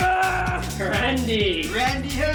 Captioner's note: Randy screams